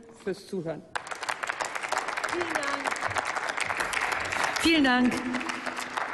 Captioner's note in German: Applaus